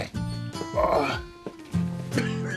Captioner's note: GROANlNG